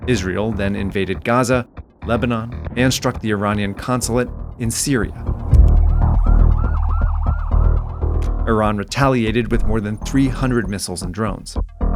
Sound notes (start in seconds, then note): 5.4 suspenseful music; 5.6 siren wailing